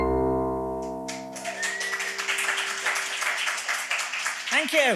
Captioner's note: audience clapping